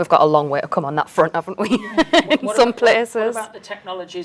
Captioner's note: chuckles